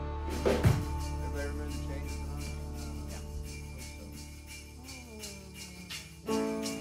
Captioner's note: indistinct chatter